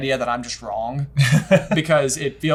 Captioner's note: laughs